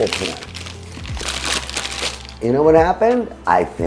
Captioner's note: paper crinkling